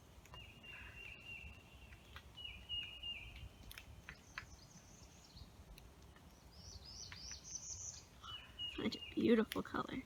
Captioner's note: birds chirping